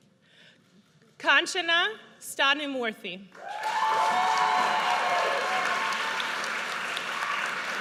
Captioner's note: audience cheers